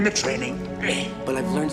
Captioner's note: grunts